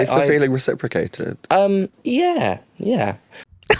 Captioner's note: high voice; laughter